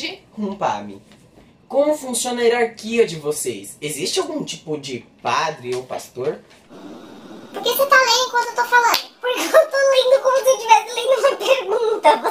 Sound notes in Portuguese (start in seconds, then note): 6.7 voz modificada para tom engraçado